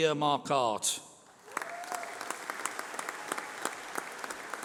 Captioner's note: applause